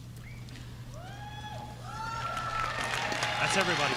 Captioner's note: audience cheering